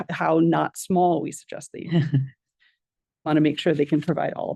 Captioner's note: board member laughs